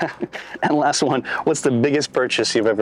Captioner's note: laughs